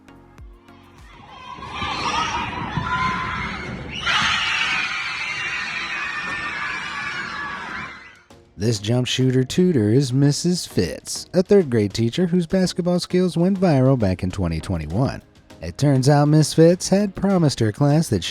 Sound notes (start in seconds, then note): 0.8 children yelling; 4.4 children cheering